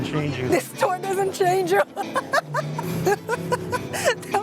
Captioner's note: laughs